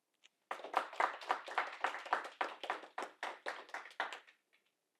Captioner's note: audience applauding